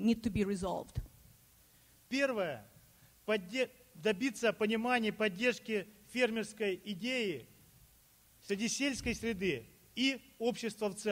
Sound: speaking Russian

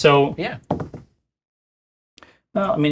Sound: dice rolls

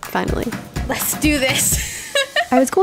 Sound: laughs

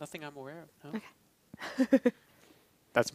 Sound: laughing

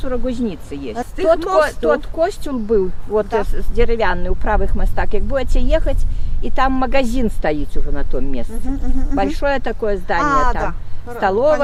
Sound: in Belarusian

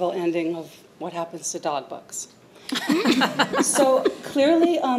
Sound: laughter

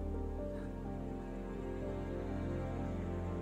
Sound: shallow exhaling

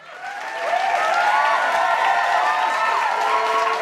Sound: audience cheering

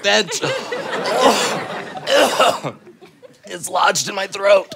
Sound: gags

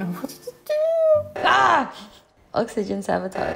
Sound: loud beeping

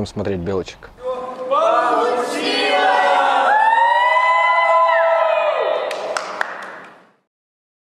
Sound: applause

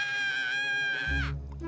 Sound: screaming

